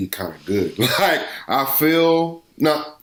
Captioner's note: laughs